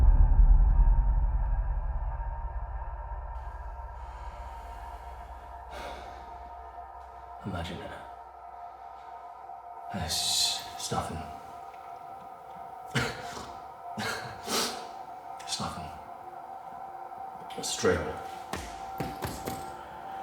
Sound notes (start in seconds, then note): 0.3 light dramatic music; 5.9 Danny sighs; 12.8 Danny coughs